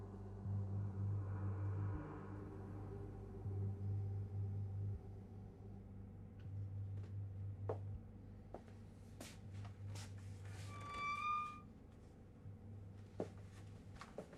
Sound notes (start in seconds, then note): 7.5 footsteps approach; 10.6 hinge creaks